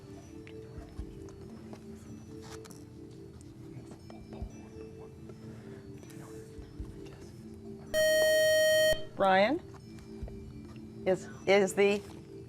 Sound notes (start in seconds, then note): 7.9 buzzer